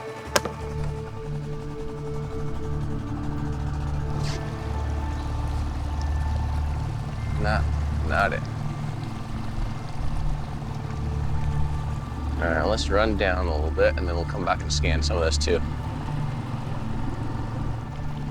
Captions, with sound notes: (water sloshing) - Not it. (water sloshing gently) All right, let's run down a little bit and then we'll come back and scan some of this too.